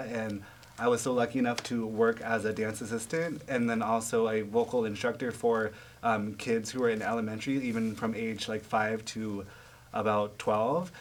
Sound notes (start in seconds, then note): none